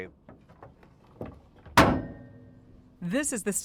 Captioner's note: metal clangs